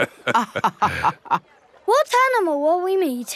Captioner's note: both laughing